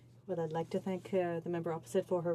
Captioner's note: speaking French